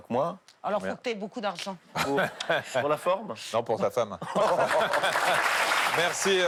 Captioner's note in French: applaudissements